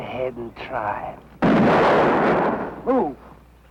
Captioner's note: gunshot